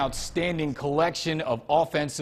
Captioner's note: logo swooshes